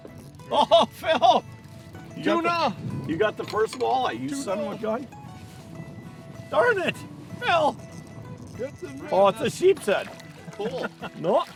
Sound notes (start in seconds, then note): 3.9 voiceover; 10.5 laughing